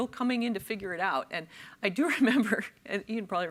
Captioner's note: chuckles